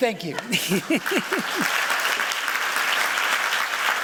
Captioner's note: applause